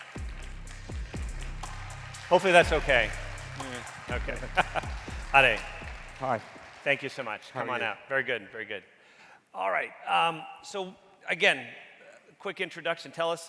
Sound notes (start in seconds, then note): 0.0 upbeat music; 4.2 laughs